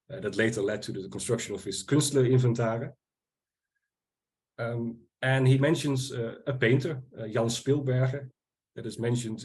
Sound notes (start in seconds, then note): 1.9 speaking Dutch